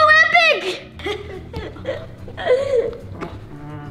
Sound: laughs

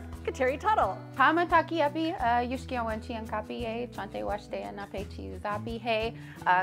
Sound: speaks in foreign language

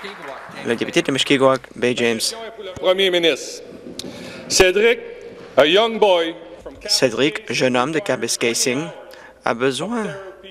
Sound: applause

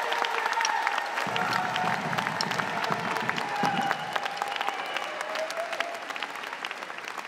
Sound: audience clapping

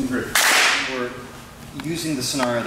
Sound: hands clap

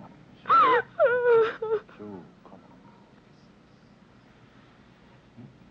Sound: Anne crying

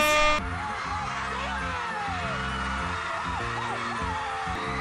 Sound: audience screaming

